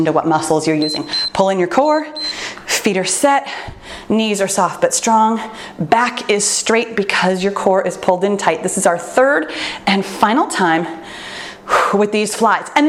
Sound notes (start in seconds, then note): 0.8 timer beeps